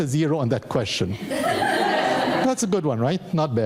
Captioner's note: audience laughing